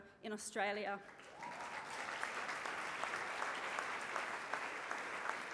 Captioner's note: applause